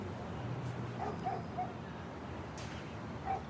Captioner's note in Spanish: perro ladra